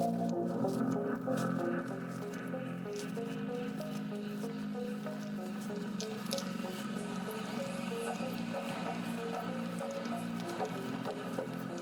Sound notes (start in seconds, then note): 0.1 electronic music; 5.0 softly tapping footsteps; 8.8 electronic music